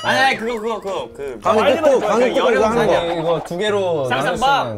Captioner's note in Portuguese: Explica apaixonadamente